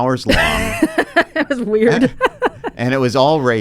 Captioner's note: laughs